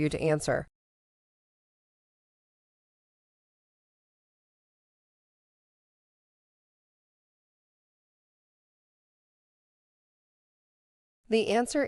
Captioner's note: no audio